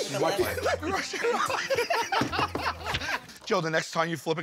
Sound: laughter

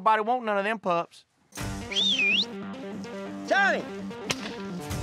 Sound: whistling; yelling

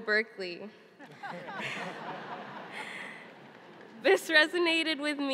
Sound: laughing

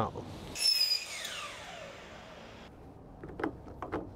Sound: saw squealing

